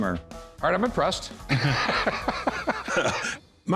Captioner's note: laughter